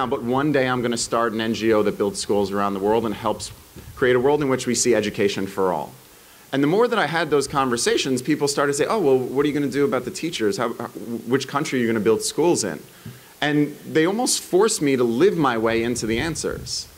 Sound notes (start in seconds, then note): none